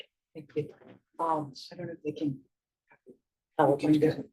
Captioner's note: faintly speaking